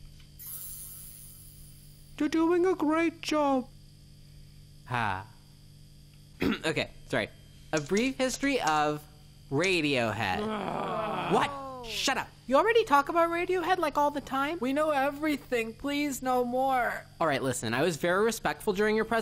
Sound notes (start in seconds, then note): 0.2 robotic hallucination tone; 6.4 clears throat; 10.2 exasperated groaning